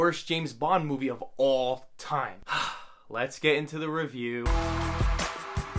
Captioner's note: sigh